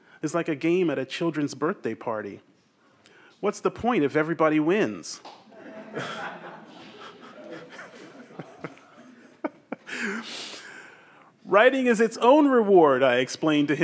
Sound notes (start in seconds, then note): 5.5 audience laughs; 7.8 chuckles